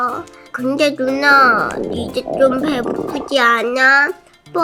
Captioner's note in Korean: 꼬르륵